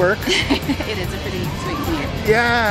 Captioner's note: laughter